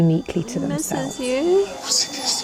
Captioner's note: bell chiming